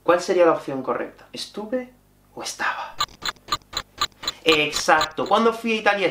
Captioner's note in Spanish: Tic tic tic